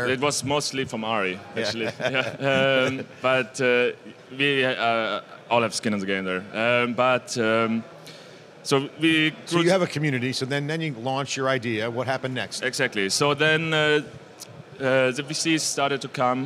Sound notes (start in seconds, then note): 1.6 laughs